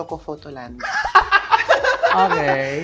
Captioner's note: both laugh